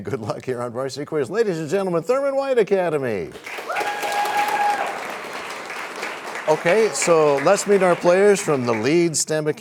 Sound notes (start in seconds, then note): 3.4 cheers and applause